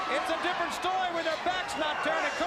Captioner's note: crowd cheering